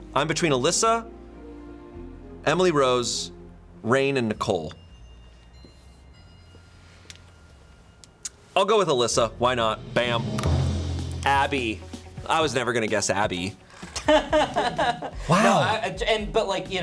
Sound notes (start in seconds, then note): 9.2 tense music building; 10.5 button clicks; 13.8 crew member laughing